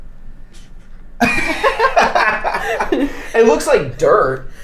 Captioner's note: both laughing